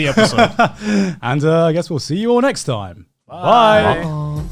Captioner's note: laughs